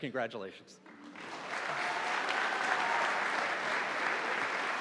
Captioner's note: audience applauding